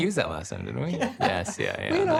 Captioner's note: laughs